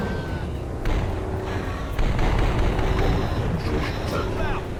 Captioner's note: rifle firing